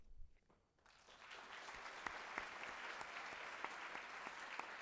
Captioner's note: audience applauds